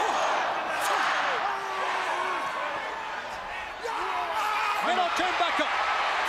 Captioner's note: crowd chatter